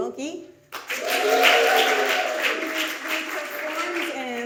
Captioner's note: audience cheers